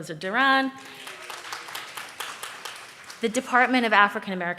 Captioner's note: audience claps